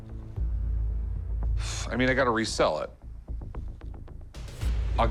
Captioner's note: sighs